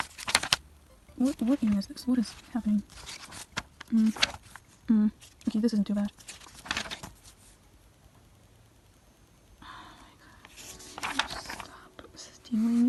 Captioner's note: sigh